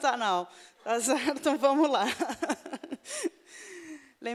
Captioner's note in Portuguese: risos